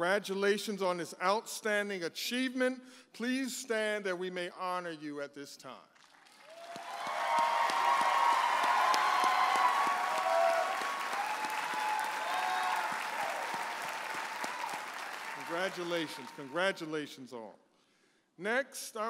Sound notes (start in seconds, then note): 7.0 audience applauding and cheering